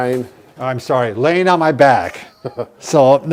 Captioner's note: laughter